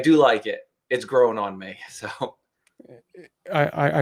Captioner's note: chuckles